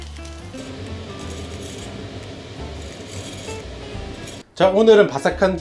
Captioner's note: sizzle sizzle